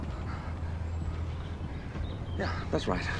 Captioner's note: birds chirping